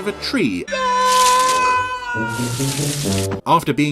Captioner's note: parker screams